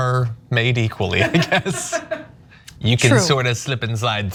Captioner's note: laugh